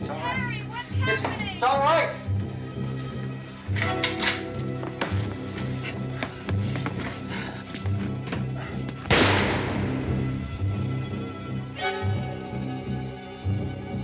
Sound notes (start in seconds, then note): 3.6 rifle cocks; 9.1 gunshot